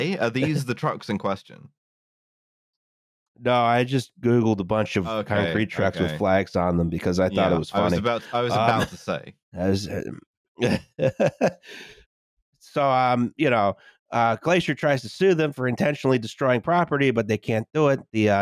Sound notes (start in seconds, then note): 11.9 laughs